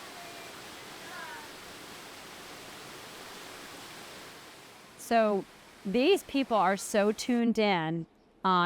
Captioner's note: water rushing